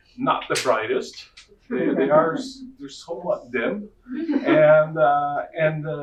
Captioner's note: audience laughing